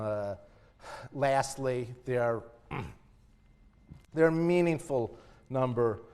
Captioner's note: cough